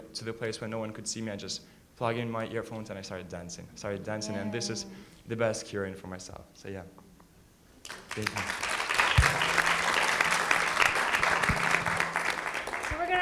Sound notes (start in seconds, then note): 7.8 audience applauding